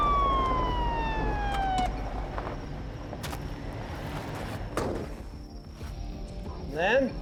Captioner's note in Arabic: عويل صفارات الإنذار; يفتح الباب ويغلق